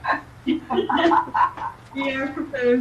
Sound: members laughing

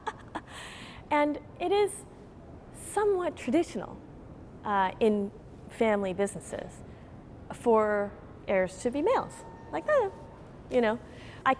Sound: laughter

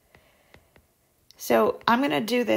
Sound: digital pen tapping noise

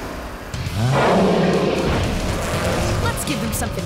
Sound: roaring

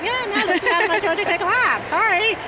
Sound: laughing

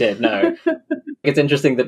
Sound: laughs

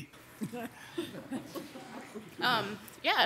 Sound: all softly chuckling

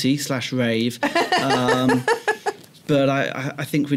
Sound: laughter

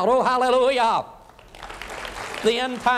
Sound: applause

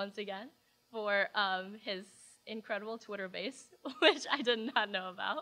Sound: laughs

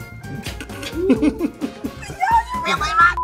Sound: guy laughing

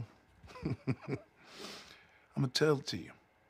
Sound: chuckles

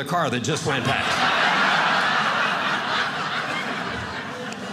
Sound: audience laughing

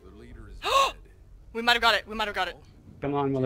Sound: gasp

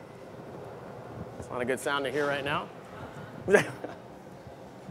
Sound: laughter

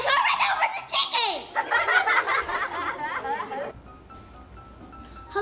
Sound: children laughing

